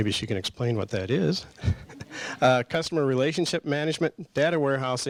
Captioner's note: laughs